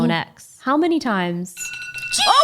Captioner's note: alarm rings